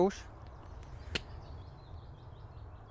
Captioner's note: slapping